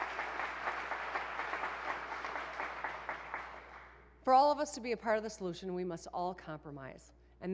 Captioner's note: applause